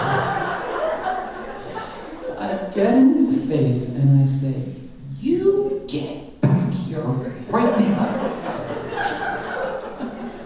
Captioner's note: laughter; laughter